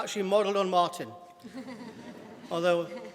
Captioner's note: laughter